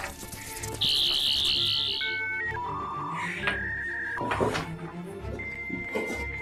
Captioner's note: telephone electricity sounds; buzzing